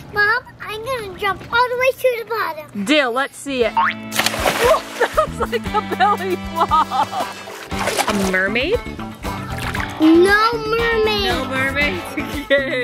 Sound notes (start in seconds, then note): 4.0 spring and splash